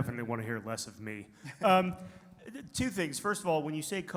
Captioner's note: laughs